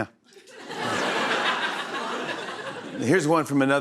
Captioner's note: laughter